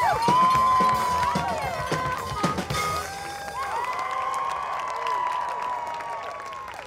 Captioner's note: horn honks; audience applauds; audience cheers